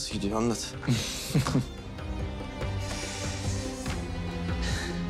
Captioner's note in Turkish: Gülüyor